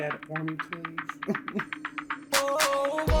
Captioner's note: chuckles